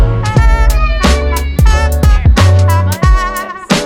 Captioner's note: child cheering